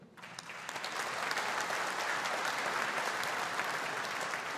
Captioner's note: audience applauding